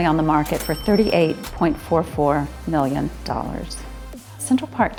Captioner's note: cash register chimes